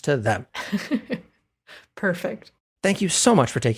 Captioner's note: laugh